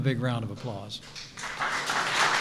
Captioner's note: applause